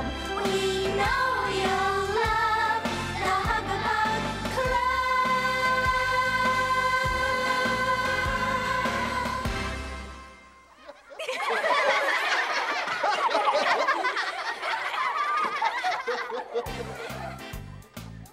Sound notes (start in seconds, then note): 10.7 everyone laughing